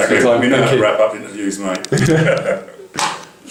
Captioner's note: laughter